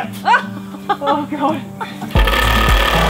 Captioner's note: laughing; various tool noises